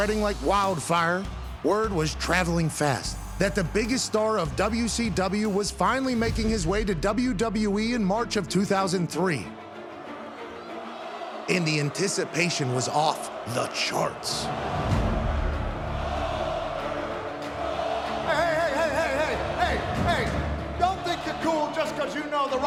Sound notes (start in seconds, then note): 14.0 tense music; 14.8 crowd chanting